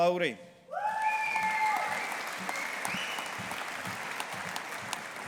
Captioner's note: audience applauding